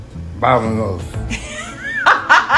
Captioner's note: laughter